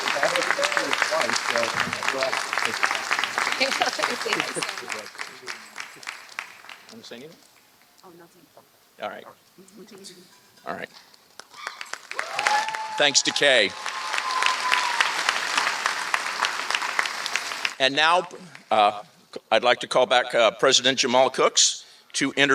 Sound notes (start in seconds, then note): 14.2 applause